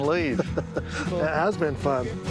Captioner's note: laughing